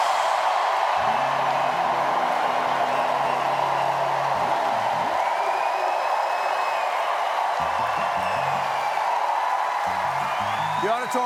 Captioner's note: cheers and applause